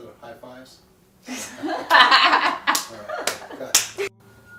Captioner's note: laughter